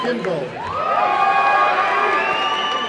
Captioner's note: applause and cheering